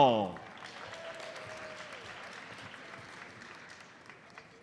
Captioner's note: audience applauds